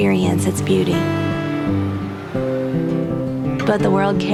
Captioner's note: small aircraft lifting off